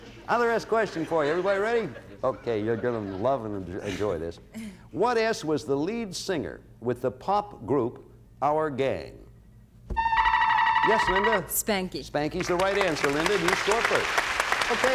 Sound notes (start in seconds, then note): 9.9 buzzer sounds; 12.5 cheers and applause